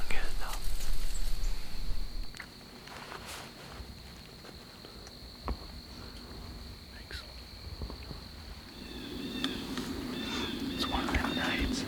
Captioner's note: insects / wind